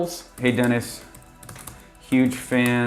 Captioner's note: keyboard typing